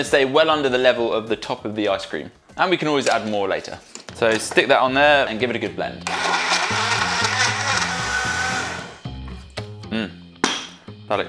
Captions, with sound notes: So I'm gonna stay well under the level of the top of the ice cream, and we can always add more later. So stick that on there and give it a good blend. (blender motor runs) Mmm.